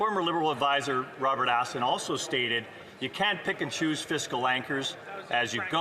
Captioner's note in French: voix de l'interprète